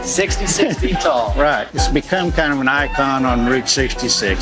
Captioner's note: laughing